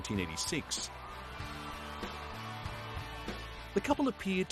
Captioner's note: crowd cheering